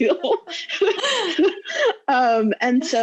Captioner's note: laughing loudly